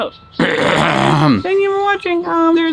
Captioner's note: clearing throat